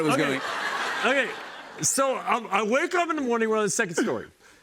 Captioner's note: laughter